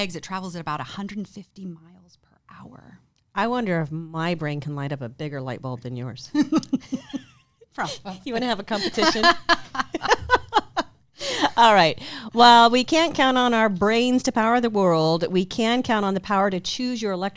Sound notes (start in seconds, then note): 6.3 giggles; 7.8 laughs; 8.2 laughs loudly